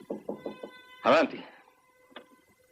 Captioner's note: knocking